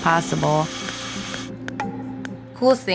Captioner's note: saw whirring